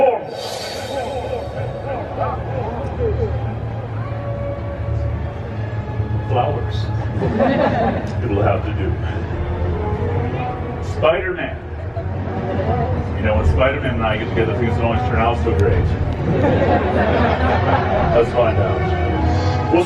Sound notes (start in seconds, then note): 0.0 chants nonsense; 7.1 audience laughs; 16.1 audience laughs